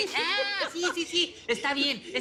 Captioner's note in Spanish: Carcajada